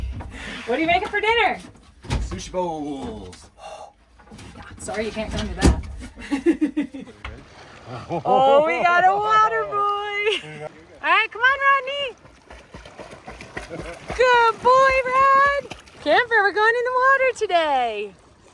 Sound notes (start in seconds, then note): 6.0 laughs; 12.5 water splashing